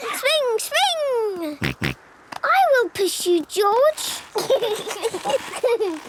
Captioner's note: snorting; kids giggling